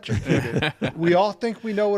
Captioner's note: all chuckling